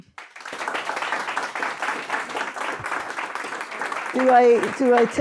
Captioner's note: applause